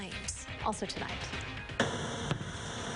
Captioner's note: nats of fireworks